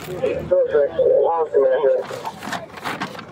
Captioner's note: radio chatter